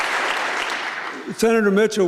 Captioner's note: applause